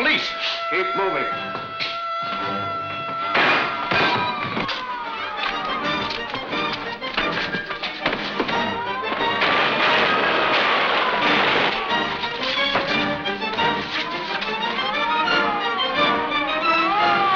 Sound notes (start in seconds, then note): 8.4 siren wails; 9.2 guns fire